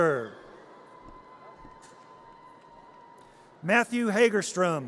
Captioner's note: audience cheers